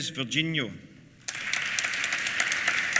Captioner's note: applause